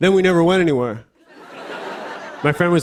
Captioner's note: laughter